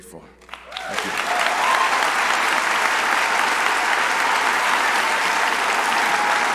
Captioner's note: crowd applauding